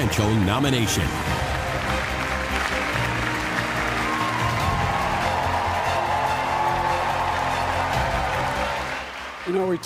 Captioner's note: applause